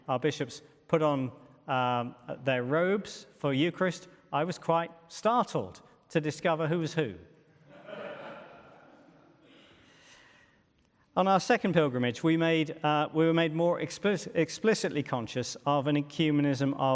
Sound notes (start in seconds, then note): 7.7 audience laughs